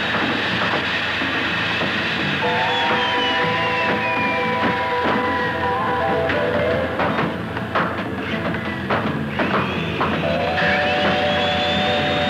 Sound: hammering

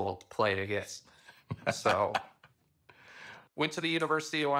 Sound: laughs

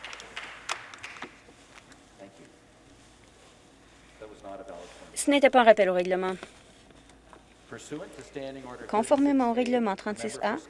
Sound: applause

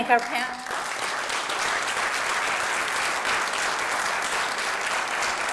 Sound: applause

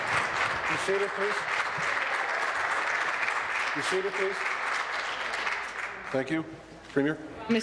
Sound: applause

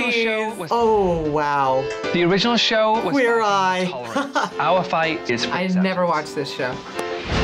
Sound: laughs

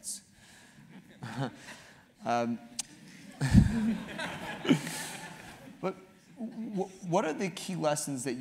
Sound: laugh

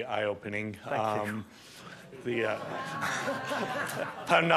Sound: audience laughs

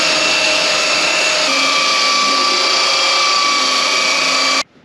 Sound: belt sander

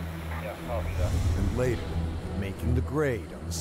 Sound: voiceover

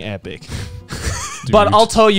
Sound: chuckling

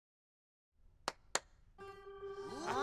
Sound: claps; suspenseful music

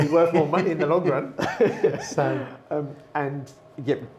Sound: laughing

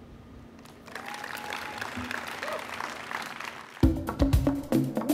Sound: audience applauding; rhythmic music

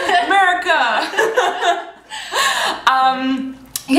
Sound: laughter

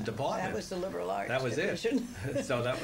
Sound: laughs

